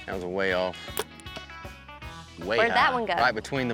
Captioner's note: arrow shot